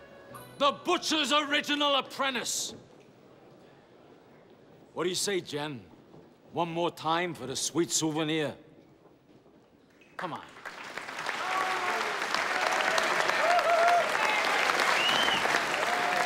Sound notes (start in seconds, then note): 11.3 all cheering; 14.8 whistling and applause